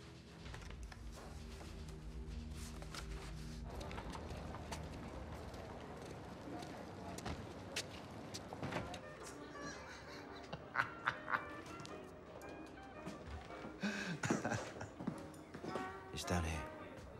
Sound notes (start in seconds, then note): 8.7 man laughs; 8.8 peaceful classic jazz music